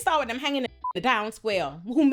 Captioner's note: beep